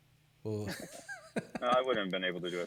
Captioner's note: laughs